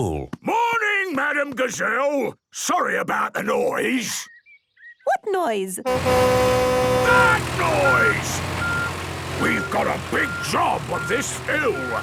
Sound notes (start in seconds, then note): 5.8 tractor noise; 7.3 screaming